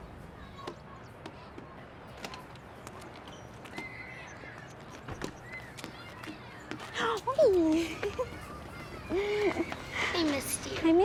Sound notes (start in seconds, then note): 6.7 Alejandra shrieks